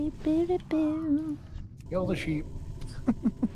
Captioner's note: humming